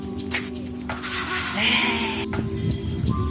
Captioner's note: excited sounds